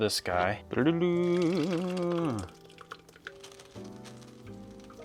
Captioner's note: humming a tune